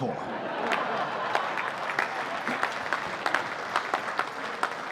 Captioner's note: audience applauding